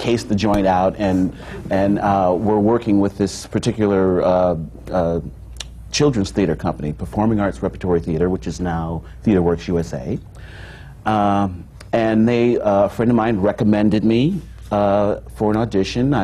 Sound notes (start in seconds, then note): none